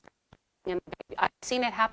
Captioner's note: audio distorting